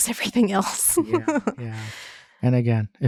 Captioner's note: laughing